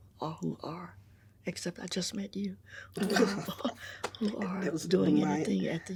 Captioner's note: chuckles